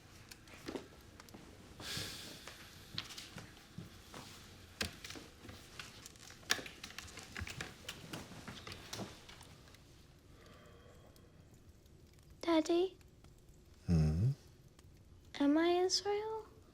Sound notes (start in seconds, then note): 1.8 sighing